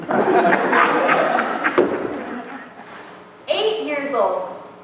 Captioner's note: laughter